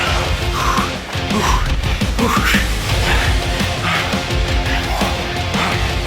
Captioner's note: breathes heavily